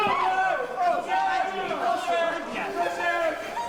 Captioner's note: people screaming